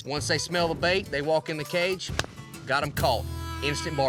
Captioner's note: smacks hands together